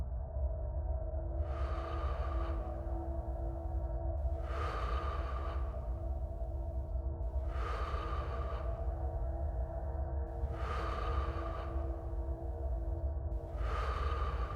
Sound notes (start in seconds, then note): 1.3 deep inhalations and exhalations